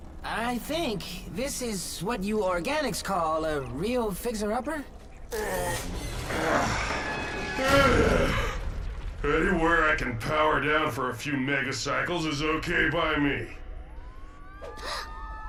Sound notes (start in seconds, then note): 5.2 groans; 7.4 sighs; 14.7 gasps; 15.2 sirens wailing